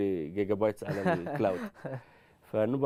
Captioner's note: laughter